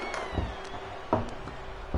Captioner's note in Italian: Applauso